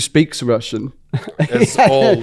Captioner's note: laughs